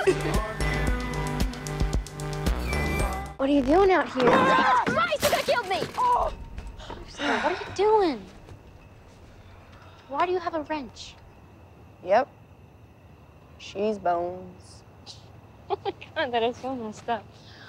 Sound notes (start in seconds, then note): 4.2 mac screams; 4.6 screams; 14.8 laughing